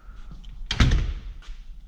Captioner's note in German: türgeräusch